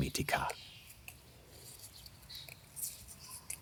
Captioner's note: birds chirping